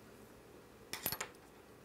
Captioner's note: A quiet clattering sound